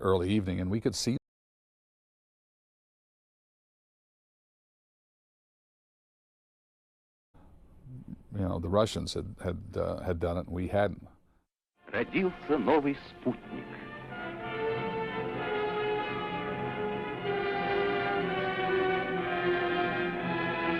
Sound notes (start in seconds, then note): 15.2 man speaking Russian; 17.2 sweeping orchestral music